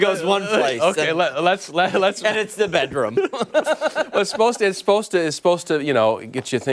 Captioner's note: laughter